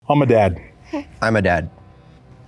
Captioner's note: baby coos